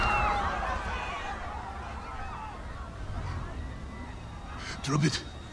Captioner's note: crowd screaming in fear